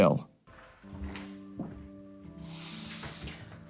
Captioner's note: footsteps plodding; sighs deeply